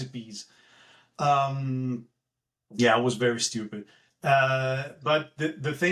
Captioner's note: laugh